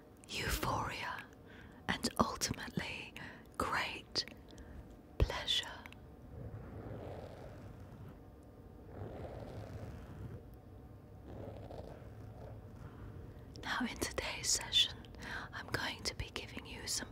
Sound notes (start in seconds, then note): 6.3 gentle scraping